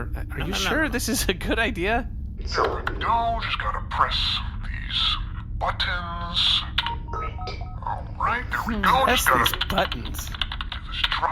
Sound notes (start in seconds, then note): 3.0 distorted voice; 6.6 begins audibly tapping away at a keyboard and talking to himself; 6.9 electronic beep; 8.7 distorted voice; 9.3 keyboard clacking; 9.5 distorted voice